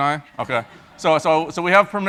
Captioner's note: laugh